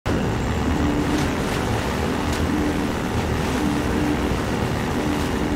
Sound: hoverbike engine revving; water splashing

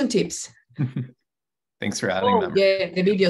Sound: giggles

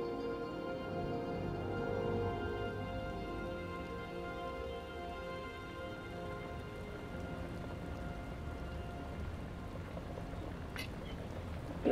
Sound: background sound of rain slowly intensifies

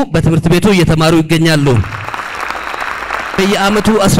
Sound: applause

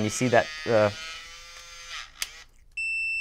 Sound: whirring sound; beeping

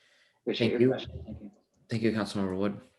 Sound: overlapping chatter

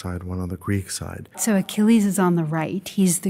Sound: voiceover

